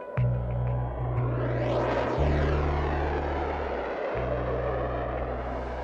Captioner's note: jet engines roaring